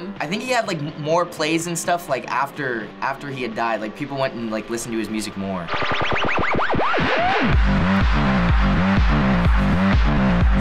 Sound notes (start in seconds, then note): 5.6 record scratching; 7.5 beat drops